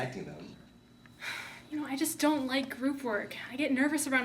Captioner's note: sighs